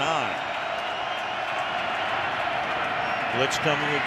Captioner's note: crowd cheering